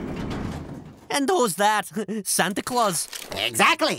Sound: chuckles

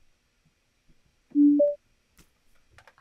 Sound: Zoom log-on chime

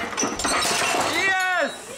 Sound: saw buzzes; engine crashes

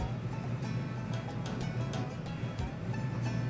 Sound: engines idling

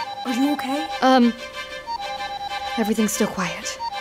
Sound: alarm ringing continues

